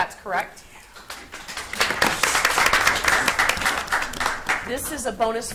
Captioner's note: audience applauds